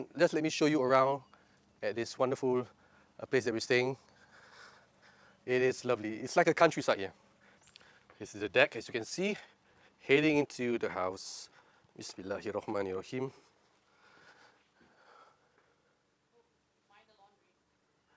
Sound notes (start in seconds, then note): 12.2 speaking in foreign language